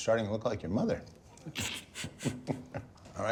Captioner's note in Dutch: grinnikt